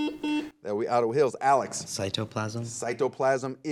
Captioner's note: buzzer